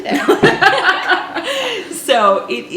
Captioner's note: laughing